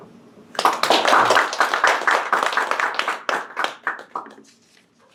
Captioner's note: audience applauding